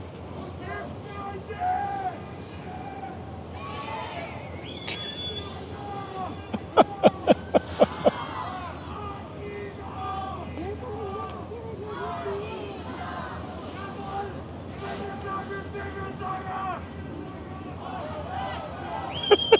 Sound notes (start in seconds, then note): 6.2 laugh